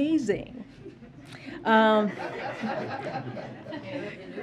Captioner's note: laughter